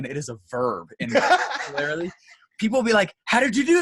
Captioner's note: laughs